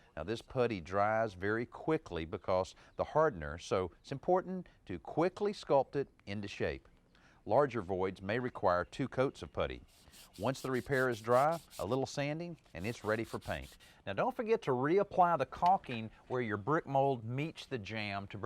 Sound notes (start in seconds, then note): 9.8 sandpaper scraping